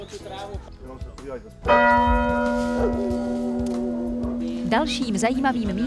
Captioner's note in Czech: zvuk zvonu